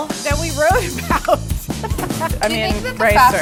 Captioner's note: laughter